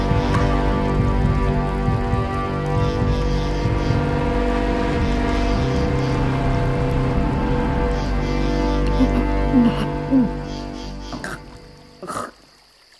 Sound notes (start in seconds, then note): 0.1 dramatic music; 9.5 Renee chokes